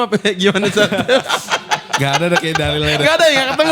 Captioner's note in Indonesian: tertawa